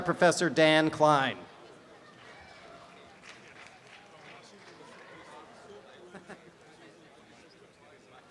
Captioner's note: background audience chatter; applause and cheering